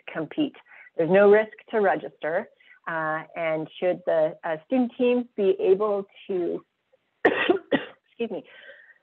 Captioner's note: coughs